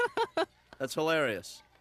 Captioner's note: giggling